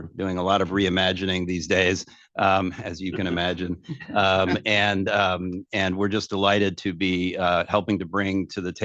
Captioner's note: laughter